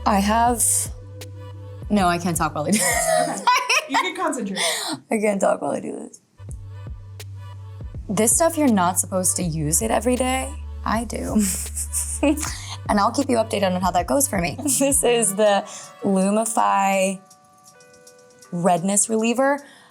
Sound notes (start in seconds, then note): 0.0 gentle upbeat music; 6.3 gentle upbeat music; 11.4 Dove chuckling